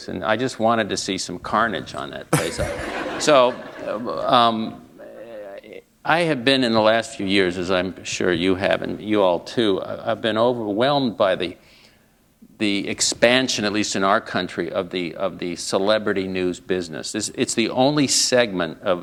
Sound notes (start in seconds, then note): 2.3 laughter